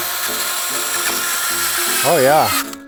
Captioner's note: drilling noise